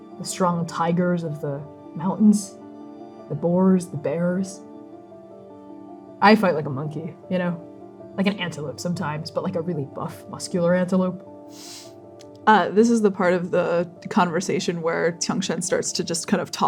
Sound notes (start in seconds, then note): 11.5 inhaling